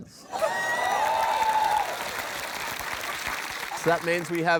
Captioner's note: cheering, applause